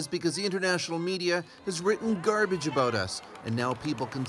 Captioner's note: speaking russian